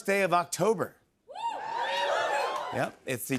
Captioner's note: audience cheers